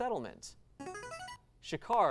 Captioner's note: device sound